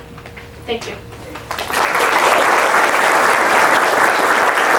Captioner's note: audience claps